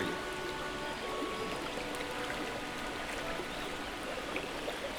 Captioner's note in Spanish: rio fluyendo y pajarillos